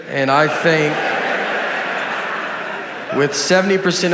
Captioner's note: laughter